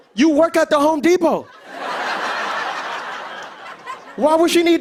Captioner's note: laughter